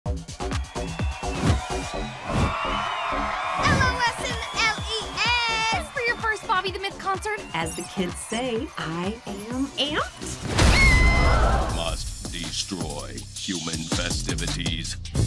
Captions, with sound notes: [upbeat music] [cheering] LOS and LES. Ready for your first Bobby The Myth concert? As the kids say, I am amped. [screaming] Must destroy human festivities.